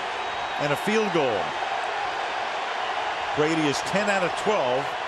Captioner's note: crowd cheering